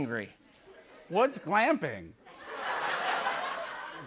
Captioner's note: laughter